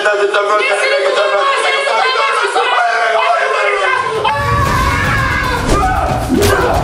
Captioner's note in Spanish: Gritos